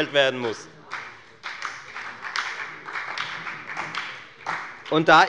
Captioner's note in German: Beifall bei der FDP